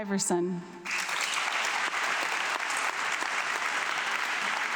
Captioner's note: audience clapping